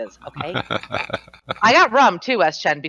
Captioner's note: laughs